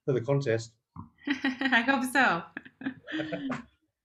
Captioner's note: laughter